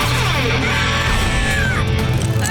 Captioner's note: screeching